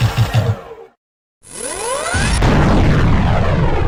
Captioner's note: Commander Heavy Shock firing